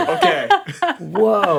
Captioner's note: laughing